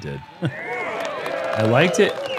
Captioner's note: cheering